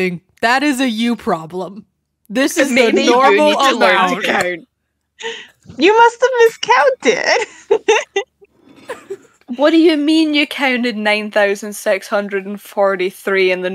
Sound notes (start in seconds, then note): 6.4 laughs